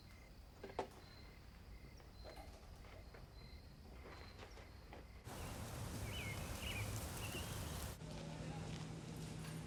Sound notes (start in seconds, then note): 5.2 birds chirping